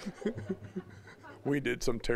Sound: laughing

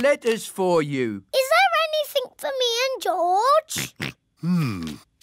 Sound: oinks

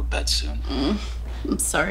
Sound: groans

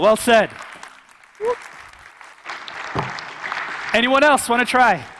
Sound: audience clapping

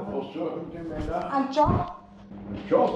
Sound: speaking foreign language

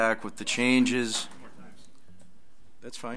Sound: overlapping chattering

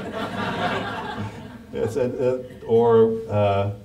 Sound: audience laughs

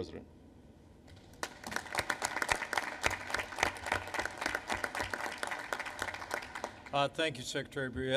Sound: applause

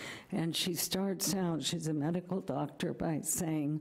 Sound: none

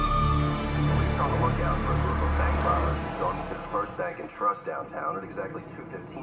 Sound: man On Radio

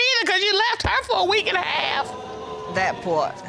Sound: audience exclaims

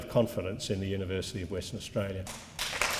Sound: applause to end

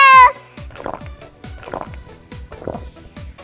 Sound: slurp Slurp Slurp

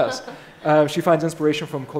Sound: laughing

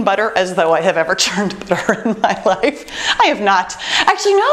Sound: laughs

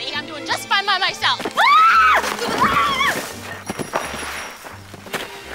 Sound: dee screams

